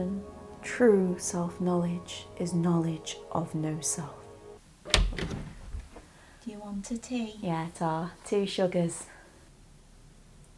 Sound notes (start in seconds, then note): 4.8 door opens